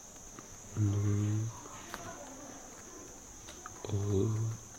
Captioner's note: foreign language